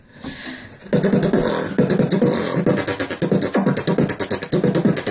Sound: beatbox percussion

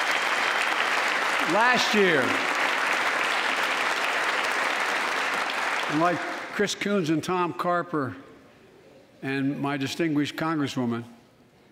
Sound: applause

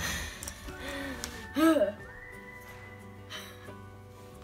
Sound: breathing heavily

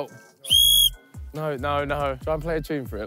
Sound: whistle blowing

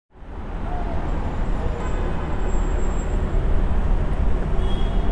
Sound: car horn honking

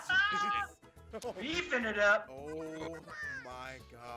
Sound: laugh

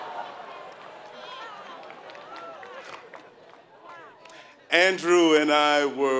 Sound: laughing

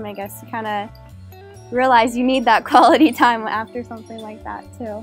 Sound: giggle

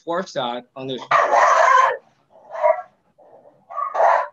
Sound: dog barks

